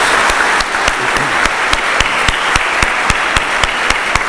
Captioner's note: applause